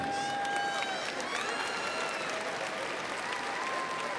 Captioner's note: crowd applauds